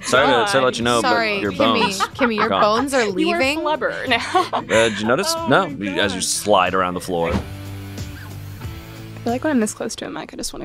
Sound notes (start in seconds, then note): 3.8 laughs; 7.5 upbeat rock music